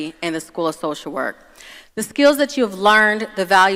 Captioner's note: none